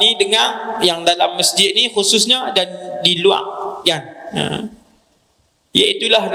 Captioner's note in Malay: berdeham